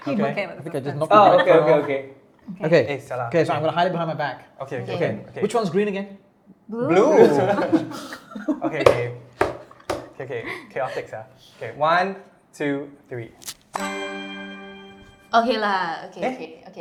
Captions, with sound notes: Okay, so I'm going to hide it behind my back. Which one's green again? Blue! *spanks table* Chaotic sia. Okay, one, two, three! Okay lah, okay okay. First time sia.